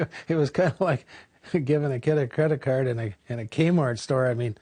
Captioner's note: laughs